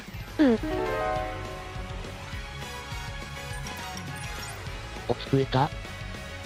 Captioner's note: sob